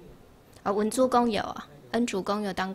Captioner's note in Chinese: 台語